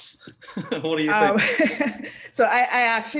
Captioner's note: laugh